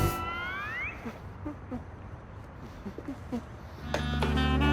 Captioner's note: humming; bright music